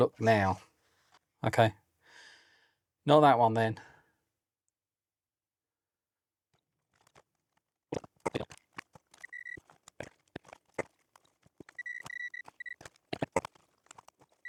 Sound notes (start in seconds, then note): 3.4 beeping